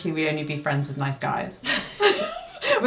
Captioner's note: both laugh